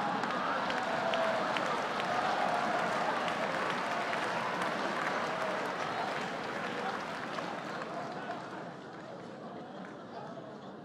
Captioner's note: laughter and applause